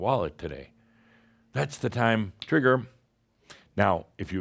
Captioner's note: snap!